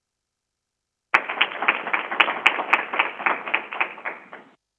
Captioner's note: crowd applauding